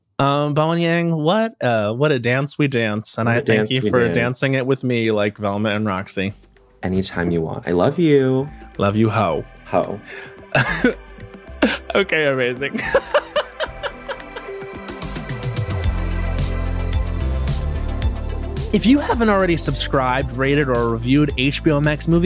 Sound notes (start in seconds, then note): 12.7 laughs; 13.9 upbeat music plays